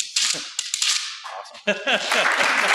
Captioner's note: laughs; applause